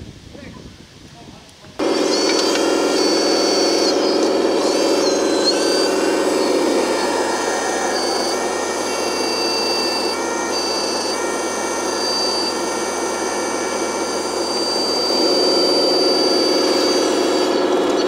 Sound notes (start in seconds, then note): 2.1 crane creaks